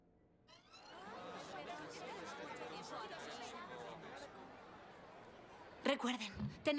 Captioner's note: chattering